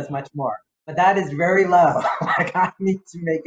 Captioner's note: chuckles